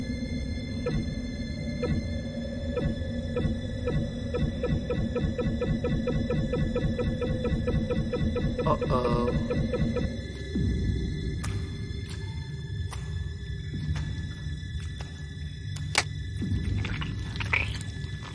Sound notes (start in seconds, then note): 0.0 scary music; 0.7 blipping races; 16.6 squishing